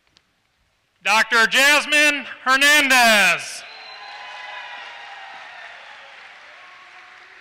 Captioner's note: applause